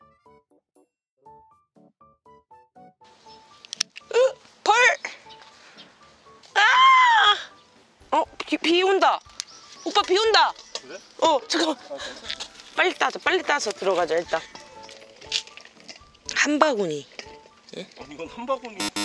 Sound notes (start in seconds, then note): 6.5 screaming